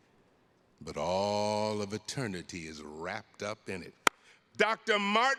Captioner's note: palms clasps